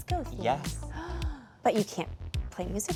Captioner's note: funky music; gasps